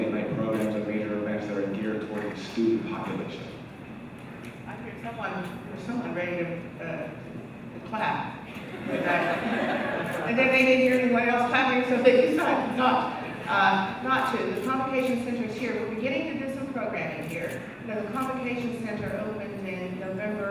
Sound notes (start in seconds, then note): 8.5 laughter